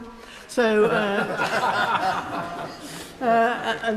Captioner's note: members laugh